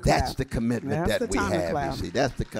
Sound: applause

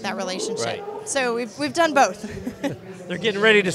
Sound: laughs

